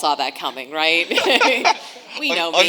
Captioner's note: panelists laughing